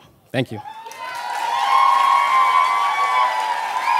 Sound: applause

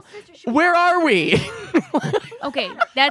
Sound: laughing

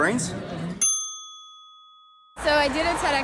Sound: ding

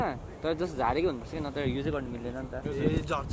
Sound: in Nepali

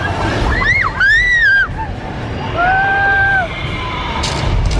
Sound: more screams

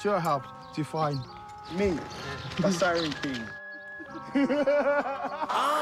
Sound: laughs

